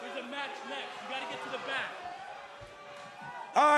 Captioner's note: speaking foreign language